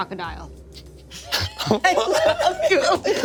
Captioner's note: everyone laughs